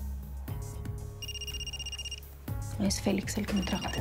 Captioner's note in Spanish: suena el celular